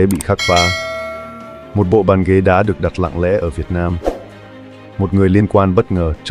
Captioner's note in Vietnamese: chuông